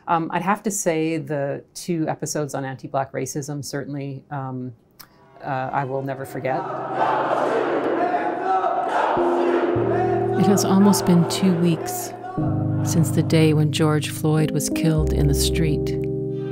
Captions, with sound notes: I'd have to say the two episodes on anti-Black racism, certainly I will never forget. [Crowd chanting "hands up, don't shoot!"]. It has almost been two weeks since the day when George Floyd was killed in a street.